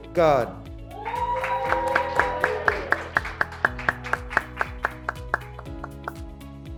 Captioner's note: graduates cheering; graduates clapping